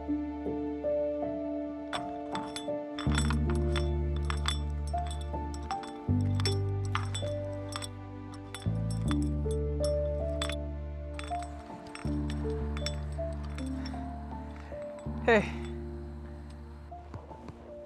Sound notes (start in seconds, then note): 5.3 footsteps